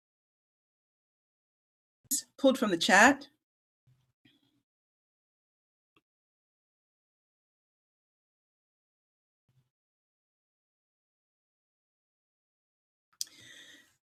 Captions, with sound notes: ... pulled from the chat. [Silence.]